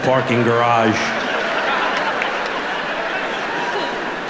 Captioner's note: audience laughing